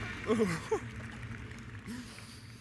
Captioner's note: the audience applauds; laughs